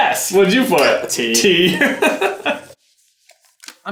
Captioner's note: laughing